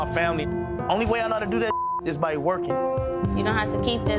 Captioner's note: beep